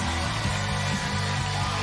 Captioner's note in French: cheers & applause